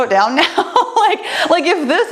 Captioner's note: laughs